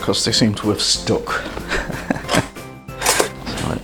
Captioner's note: laughs